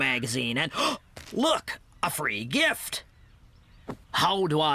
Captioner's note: gasp!